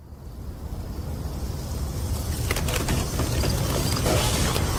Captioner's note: nighttime, strong wind howling